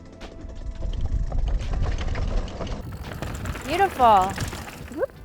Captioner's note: bike zooming